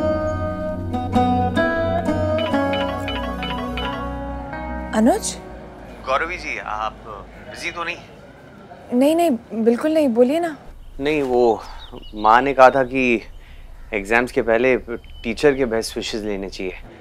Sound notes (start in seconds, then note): 2.3 Phone ringing